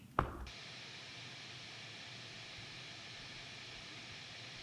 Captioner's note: static hissing